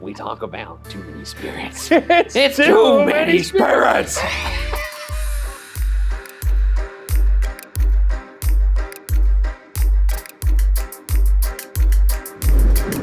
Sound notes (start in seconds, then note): 4.6 laughs; 5.5 creepy music